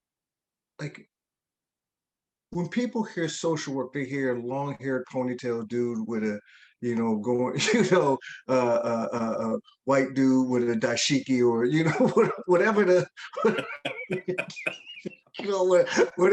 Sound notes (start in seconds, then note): 7.5 chuckles; 11.7 laugh